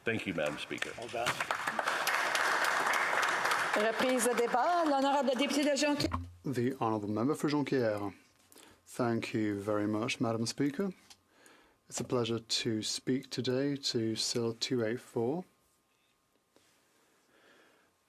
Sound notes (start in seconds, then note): 4.4 some Applause